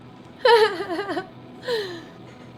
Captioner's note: laugh